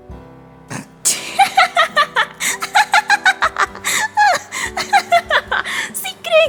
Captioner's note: laughter